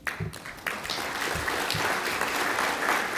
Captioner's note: applause